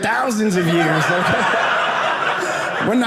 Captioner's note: audience laughing